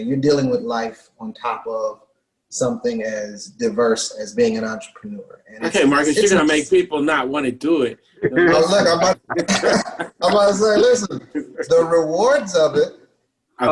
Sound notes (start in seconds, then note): 8.2 laughs